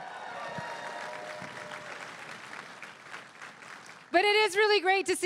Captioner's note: crowd cheering and applauding